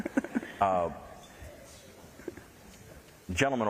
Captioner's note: laughter